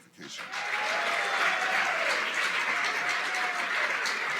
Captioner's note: applause